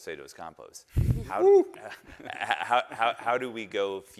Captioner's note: chuckles